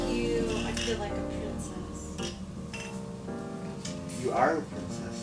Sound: glasses clinking

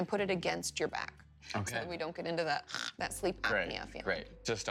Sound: snores

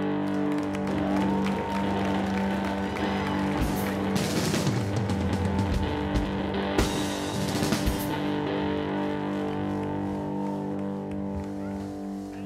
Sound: applause

